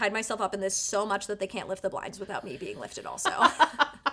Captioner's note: laughter